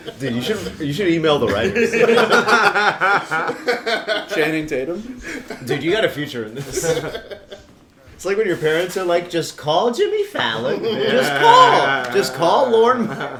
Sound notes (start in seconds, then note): 1.4 laughter; 6.5 laughter; 10.5 laughs